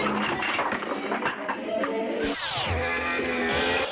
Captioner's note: clacking; rock music